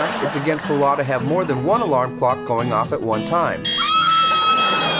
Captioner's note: screaming; screams